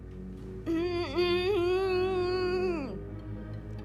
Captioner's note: moaning